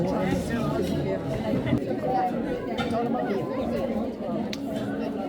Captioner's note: people chattering